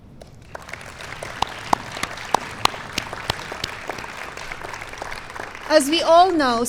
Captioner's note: applause